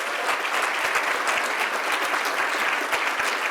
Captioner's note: applause